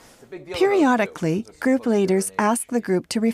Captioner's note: voiceover